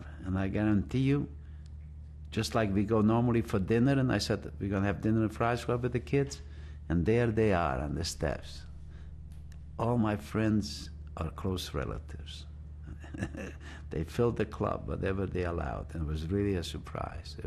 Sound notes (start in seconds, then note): 12.8 laughs